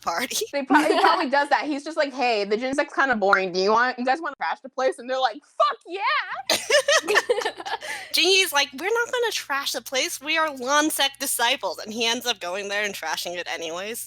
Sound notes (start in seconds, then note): 6.4 laughter